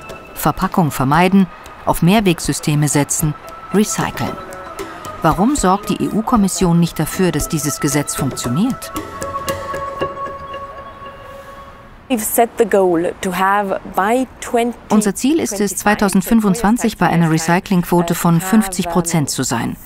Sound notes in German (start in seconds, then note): 9.5 Dynamische Musik; 12.1 englisch